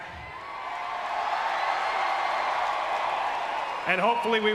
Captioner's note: crowd cheering